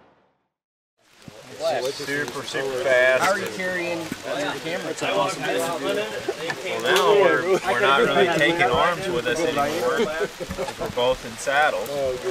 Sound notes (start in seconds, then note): 1.2 multiple voices